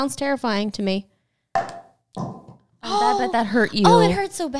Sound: bottle clanging

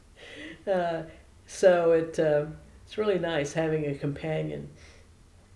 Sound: laughs

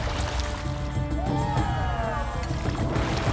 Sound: cheering

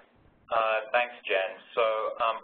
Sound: voiceover

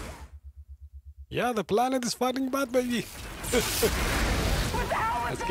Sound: laughs

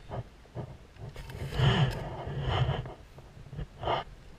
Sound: purring

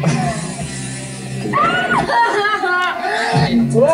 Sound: Tila screams

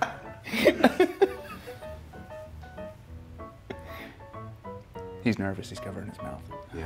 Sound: laugh

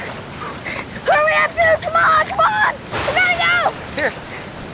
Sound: lightning cracks

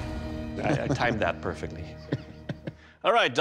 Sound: laughs

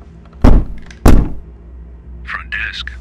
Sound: knock, knock

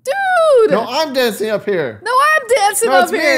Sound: none

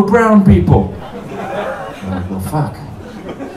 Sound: laughter

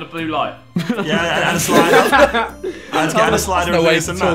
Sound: everyone laughing

